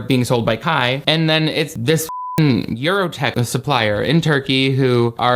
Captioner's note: beep